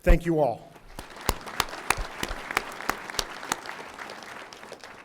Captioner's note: audience applauding